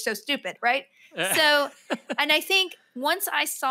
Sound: laughs

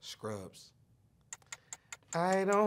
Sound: timer ticking

